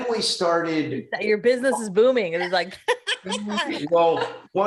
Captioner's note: laughs